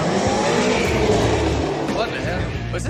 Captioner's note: tires screech